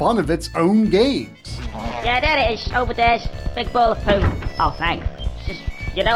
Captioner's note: game audio